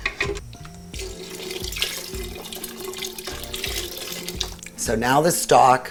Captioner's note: stock trickling